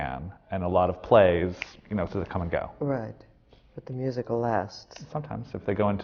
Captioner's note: snaps his fingers